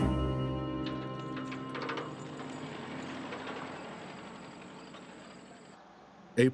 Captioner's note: birds chirping